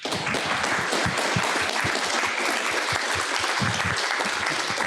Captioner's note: audience applauding